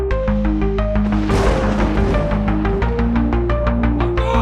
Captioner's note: explosion